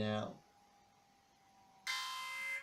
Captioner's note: alarm sounds